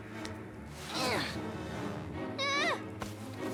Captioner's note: Owen whimpers